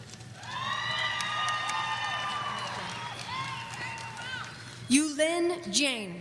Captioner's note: audience cheering